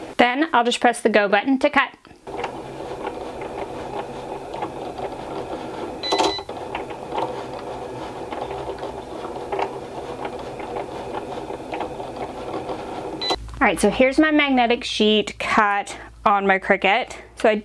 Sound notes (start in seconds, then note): 3.7 machine whirring and beeping